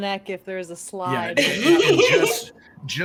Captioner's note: laughs